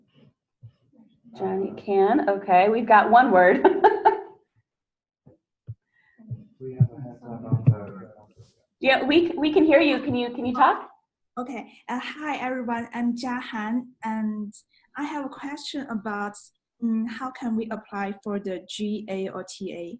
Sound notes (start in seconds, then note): 3.6 laughs